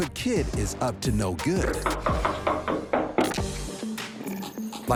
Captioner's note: knocking on door